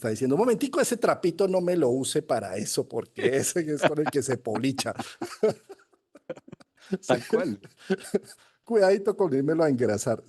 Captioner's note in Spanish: risas